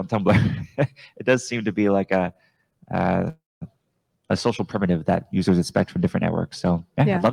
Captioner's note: chuckles